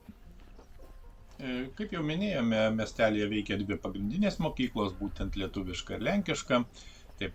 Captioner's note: lithuanian and Polish